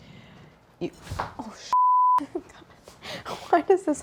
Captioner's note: beep